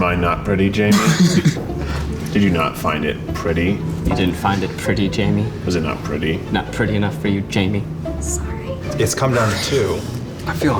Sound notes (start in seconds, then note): 0.9 guys snickering